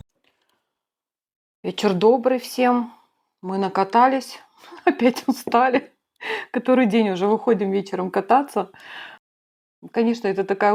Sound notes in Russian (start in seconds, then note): 4.6 смех